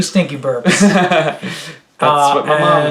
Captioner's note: laughs